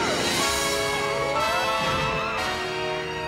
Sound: both yelp

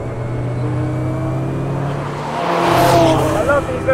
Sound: car engine roars

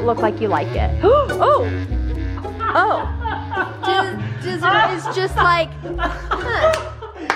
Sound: laughing

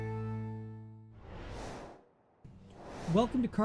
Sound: whooshing

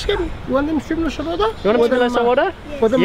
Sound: speaks in foreign language

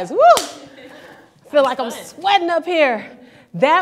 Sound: laughing

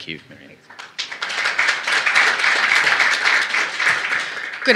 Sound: applause

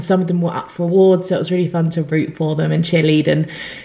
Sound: none

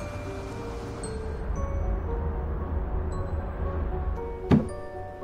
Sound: mysterious music; traffic humming; air whooshing; footsteps

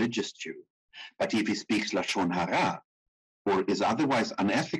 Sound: speaking in foreign language

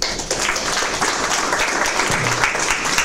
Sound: applause

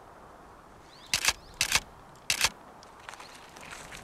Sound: camera clicks

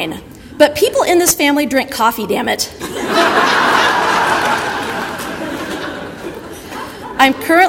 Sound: audience laughter

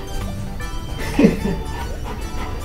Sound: laughs

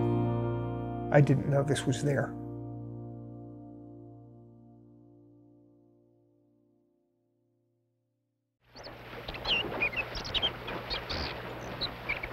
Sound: birds chirping

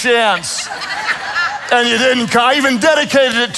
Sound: congregation laughs

